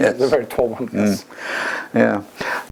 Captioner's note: laugh